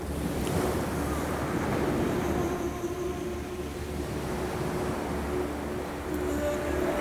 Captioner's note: waves crashing; ethereal music